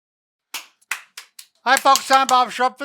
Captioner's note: clapping